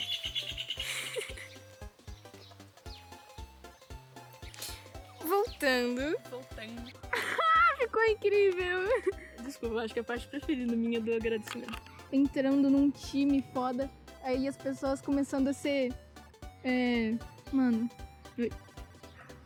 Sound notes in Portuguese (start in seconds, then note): 7.1 risos